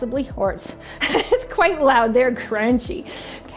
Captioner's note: laughing